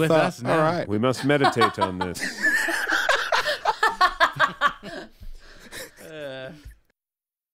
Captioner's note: laughs